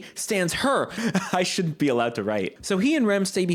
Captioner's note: laughing